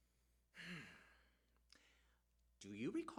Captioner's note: sighs